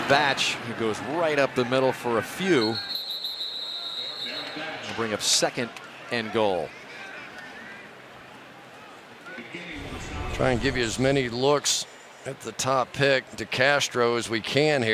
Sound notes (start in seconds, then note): 2.6 whistle; 9.9 pa announcement